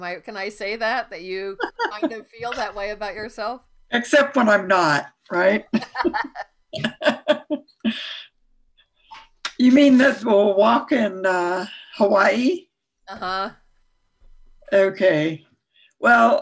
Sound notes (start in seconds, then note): 1.2 laughs; 5.3 laughs